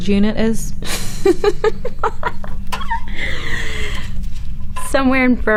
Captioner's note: Hillary laughing